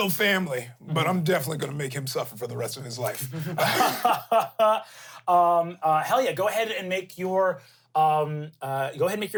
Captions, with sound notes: He's still family, but I'm definitely gonna make him suffer for the rest of his life. - (laughs) hell yeah, go ahead and make your,